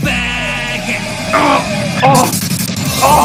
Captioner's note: painful Groan